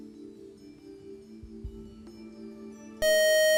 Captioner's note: buzzer